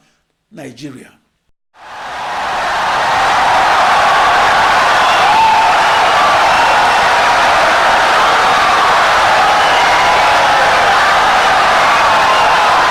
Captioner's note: wild applause and cheering for 17 seconds